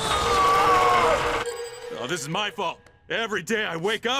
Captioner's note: screams